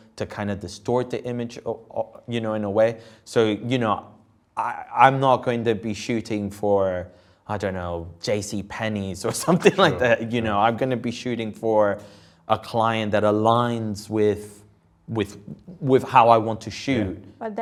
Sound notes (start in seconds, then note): 9.2 chuckling